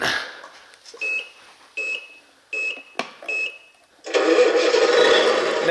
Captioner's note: truck beeps; truck engine roars